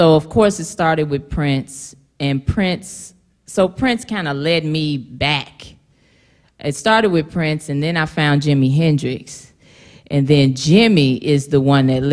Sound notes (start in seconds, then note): none